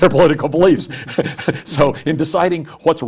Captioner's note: laughs